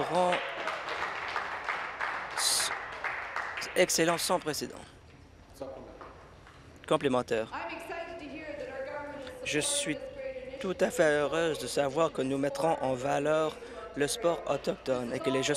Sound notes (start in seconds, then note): 3.2 applause